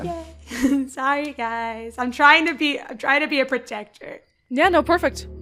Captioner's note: chuckles